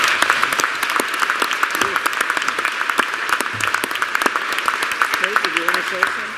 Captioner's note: applause